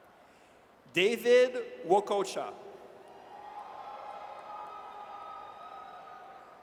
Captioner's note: audience cheers